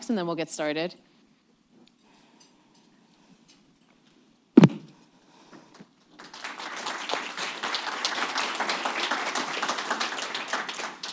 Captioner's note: applause